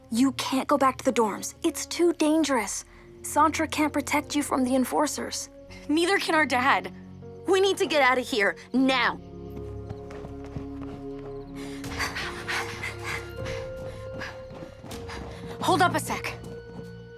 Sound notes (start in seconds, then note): 10.2 suspense music; 11.5 Mischa breaths heavily; 13.1 Terra breaths heavily